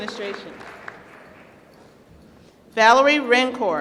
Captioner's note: applause